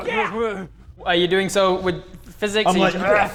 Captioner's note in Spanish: grrrr